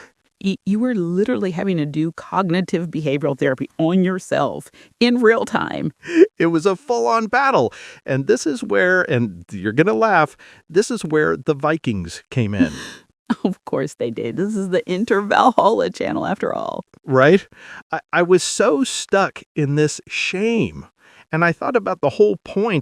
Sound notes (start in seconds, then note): 11.7 laughing